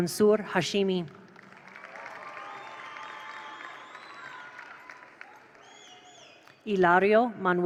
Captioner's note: attendees applaud; attendees cheer